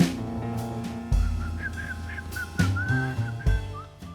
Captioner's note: whistles nonchalantly